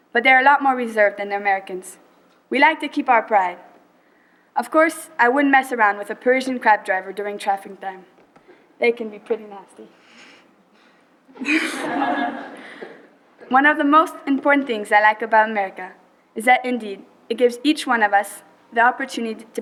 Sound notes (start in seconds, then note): 11.3 laughter